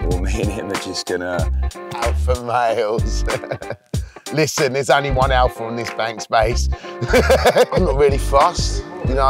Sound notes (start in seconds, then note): 3.1 chuckling; 7.0 laughing